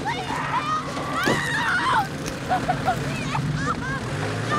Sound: Eddy screaming; engine revving

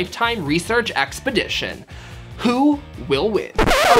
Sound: disk scratch

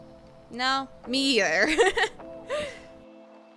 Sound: laughs

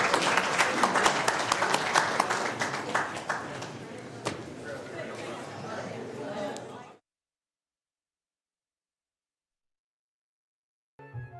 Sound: applause

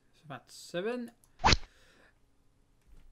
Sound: rod sound

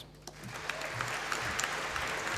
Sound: applause

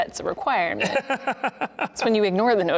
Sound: laughing

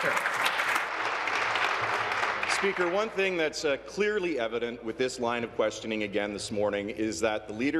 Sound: applause

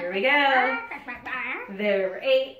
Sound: clucking

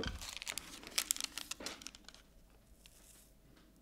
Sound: restoration pick thuds; rustling

